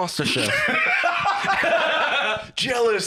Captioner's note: laugh